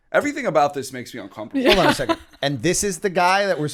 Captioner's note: chuckle